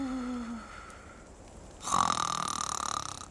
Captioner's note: snorting